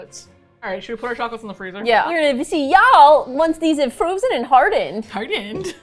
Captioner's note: gleefully